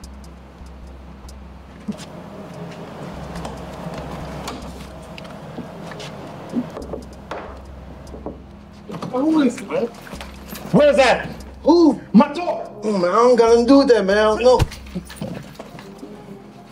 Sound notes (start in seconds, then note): 6.4 Malik taps; 14.5 punch thuds